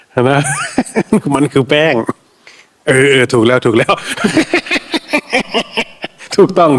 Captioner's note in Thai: เสียงหัวเราะ; เสียงหัวเราะ